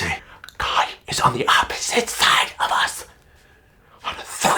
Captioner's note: whispers